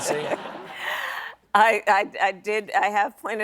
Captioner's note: laughs